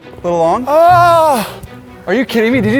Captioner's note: groans